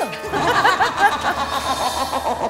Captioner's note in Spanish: Risa malvada